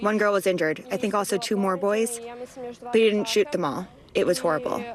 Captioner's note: speaking non-english